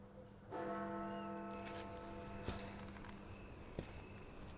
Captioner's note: clock bell